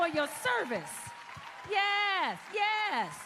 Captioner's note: cheers and applause